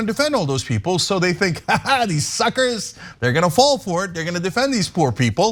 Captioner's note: laugh